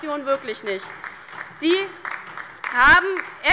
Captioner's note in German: Beifall bei der LINKEN